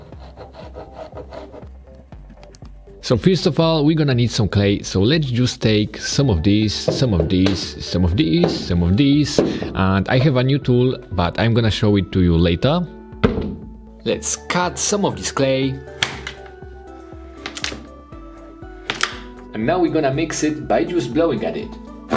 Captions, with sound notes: (pen drawing on paper) So first of all, we're gonna need some clay, so let's just take some of this, some of this, some of this, and I have a new tool, but I'm gonna show it to you later. Let's cut some of this clay. (knife hitting table) And now we're gonna mix it by just blowing at it.